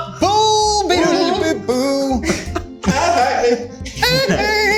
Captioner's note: laughs